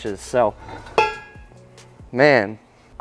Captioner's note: wheels clang